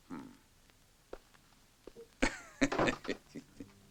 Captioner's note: laughing; resonant music